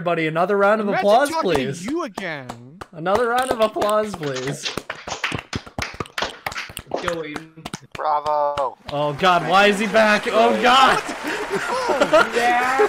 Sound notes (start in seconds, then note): 3.1 one person applauds; 5.8 audience members applaud; 11.7 recorded audience applause; 12.6 everybody laughs